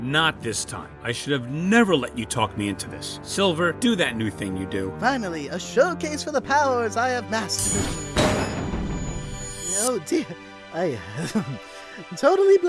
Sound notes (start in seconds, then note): 8.5 boom